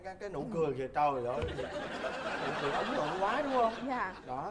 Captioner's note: laughing